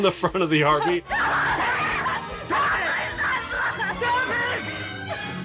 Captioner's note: actress screaming